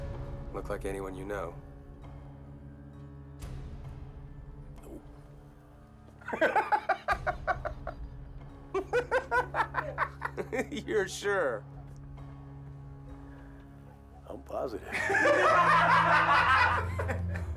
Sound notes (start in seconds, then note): 6.2 all laugh; 14.9 loud laughter